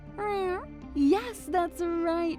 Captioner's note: Joy meows